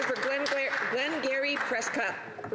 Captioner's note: some Applause